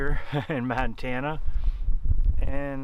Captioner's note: laughs